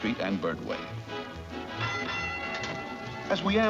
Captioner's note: trolley bell dings